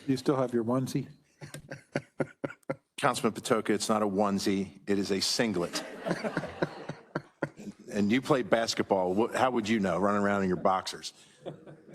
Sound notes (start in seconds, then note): 5.6 audience laughing